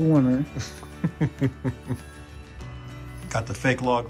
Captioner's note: laughs